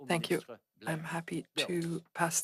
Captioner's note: speaking French